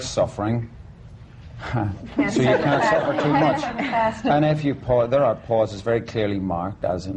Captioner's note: laughter